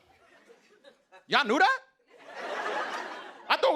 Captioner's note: laughter